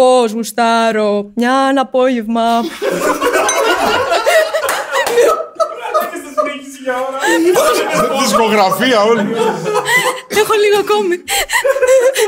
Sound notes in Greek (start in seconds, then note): 2.6 γέλια